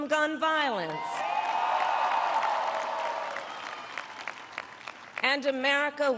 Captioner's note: applause